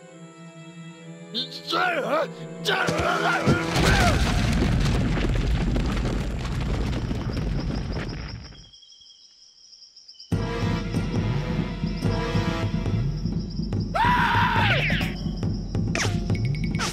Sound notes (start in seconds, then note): 1.4 shouting; 4.5 dirt rumbling